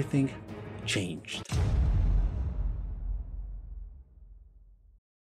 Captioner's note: loud drop